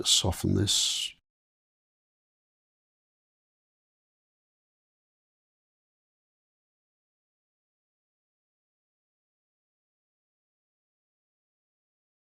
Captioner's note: silence